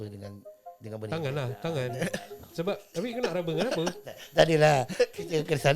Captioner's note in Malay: ketawa